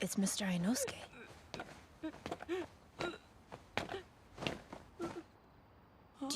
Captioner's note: Adam crying